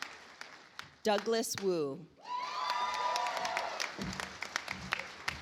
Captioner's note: audience applauds